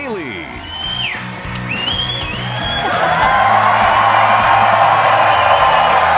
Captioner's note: cheers and applause